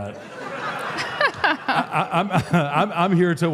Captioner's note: Michelle and audience laughs